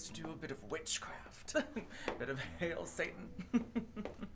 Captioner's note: chuckling